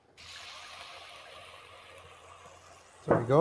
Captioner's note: steam hissing